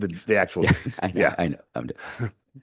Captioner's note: laughs